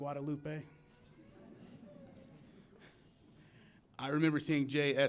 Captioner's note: audience laughs